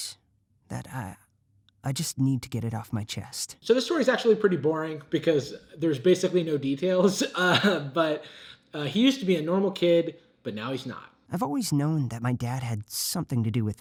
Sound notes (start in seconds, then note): 7.0 laughs